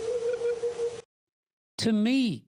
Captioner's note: howl tremolo